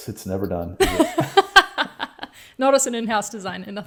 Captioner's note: laughing